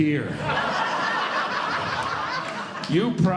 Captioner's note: audience Laughing